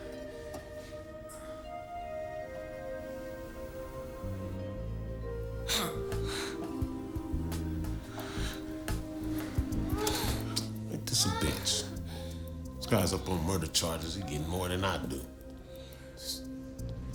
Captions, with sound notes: (light jazz music) (both moaning) - Ain't this a bitch? This guy's up on murder charges, he gettin' more than I do.